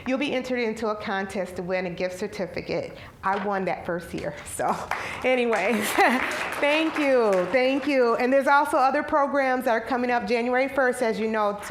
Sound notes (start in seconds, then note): 4.8 applause; 5.1 chuckling